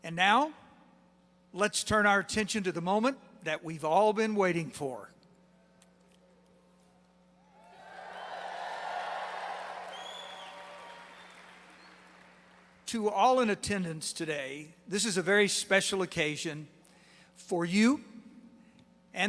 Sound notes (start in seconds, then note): 7.7 applause